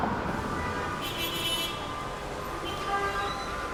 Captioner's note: car honking